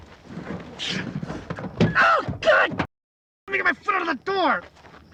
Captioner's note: yelling in pain